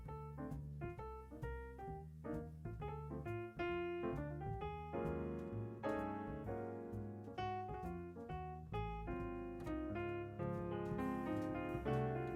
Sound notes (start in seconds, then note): none